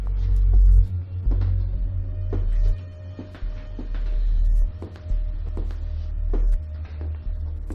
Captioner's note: footsteps